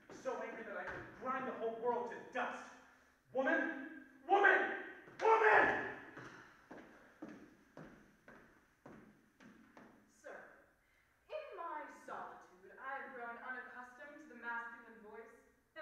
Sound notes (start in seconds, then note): 6.0 footsteps approaching